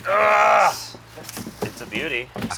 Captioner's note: grunts